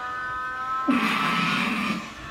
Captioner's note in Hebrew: צחוק